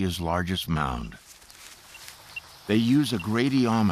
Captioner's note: gradiometer beeping